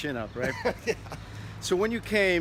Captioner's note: chuckles